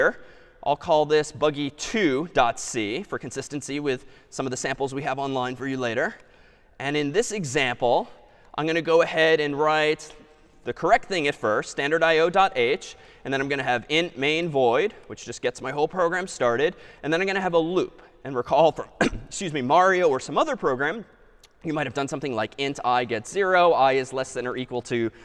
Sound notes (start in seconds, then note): 19.0 clears throat